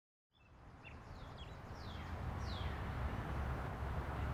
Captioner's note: birds chirping